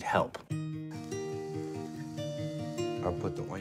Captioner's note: water running